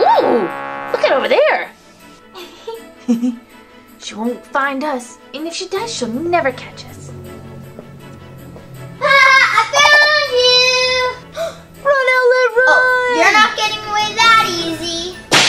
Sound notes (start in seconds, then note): 2.8 giggles; 7.8 thudding; 11.2 gasps